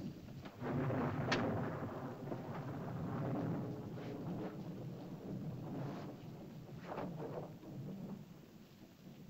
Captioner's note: thunder rumbles softly